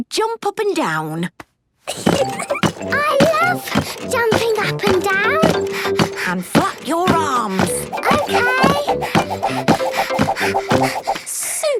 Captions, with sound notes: Let's see you jump up and down. (giggles) - I love jumping up and down! (panting) - And flap your arms. - Okay! (panting)